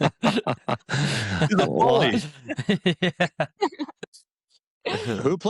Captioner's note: chatter